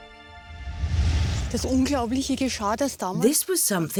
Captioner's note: speaking German